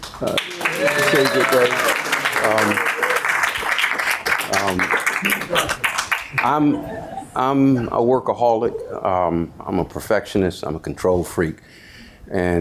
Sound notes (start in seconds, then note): 0.0 audience applauding; 0.1 audience cheering